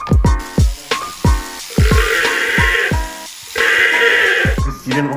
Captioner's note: llama screams